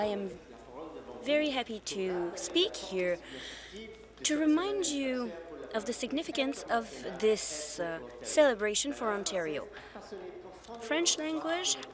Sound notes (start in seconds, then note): 4.0 speaking in French